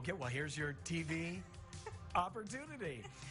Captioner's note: laughing